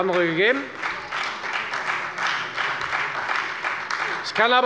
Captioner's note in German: Beifall bei der FDP und der SPD